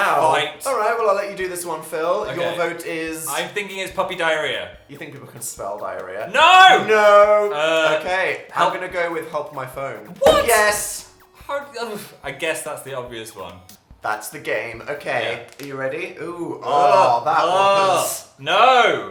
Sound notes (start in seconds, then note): 14.9 knuckle-cracking